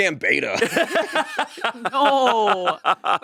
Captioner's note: both laughing